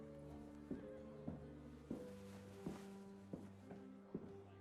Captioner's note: none